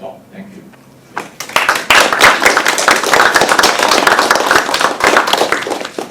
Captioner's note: audience applauding